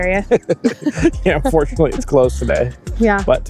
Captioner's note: laugh